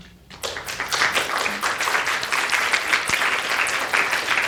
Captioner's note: audience applauding